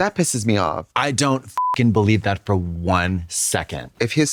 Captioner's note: beep